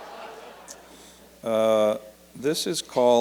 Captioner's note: laughter